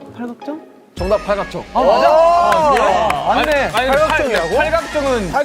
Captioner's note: applause